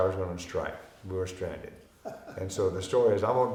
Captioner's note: chuckling